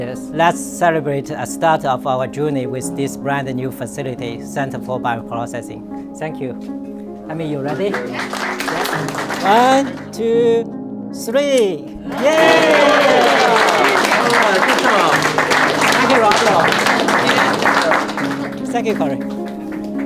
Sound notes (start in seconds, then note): 7.6 crowd Claps; 12.0 crowd Cheers